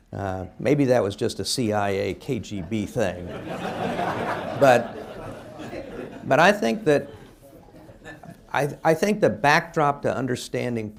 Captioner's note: laughter